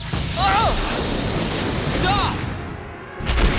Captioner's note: Zuko groaning